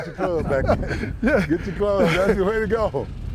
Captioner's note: laughter